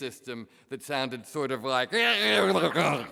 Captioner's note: speaks gibberish